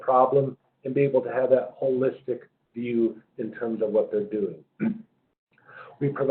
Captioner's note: cough